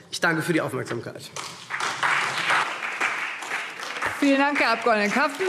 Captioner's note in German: Beifall SPD